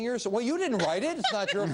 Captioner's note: laughing